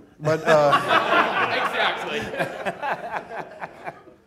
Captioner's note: audience laughing